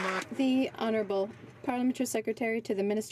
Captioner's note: some Applause